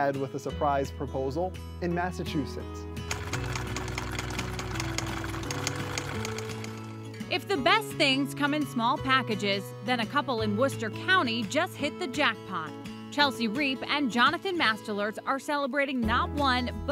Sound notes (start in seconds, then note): 3.1 machine whirring; 3.2 light mellow music